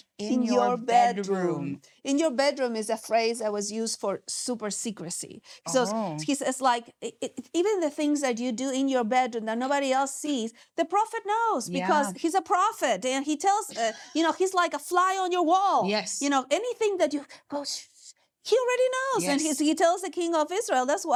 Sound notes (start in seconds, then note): 17.8 whispers